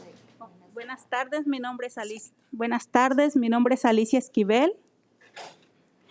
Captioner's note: speaking in foreign language